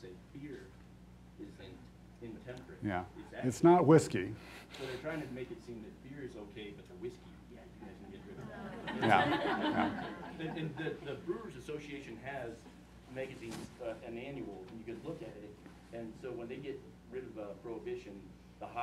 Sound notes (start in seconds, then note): 8.3 laughing